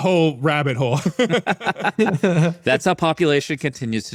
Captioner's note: laughing